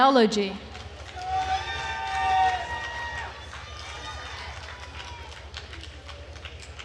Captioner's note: attendees cheering and applauding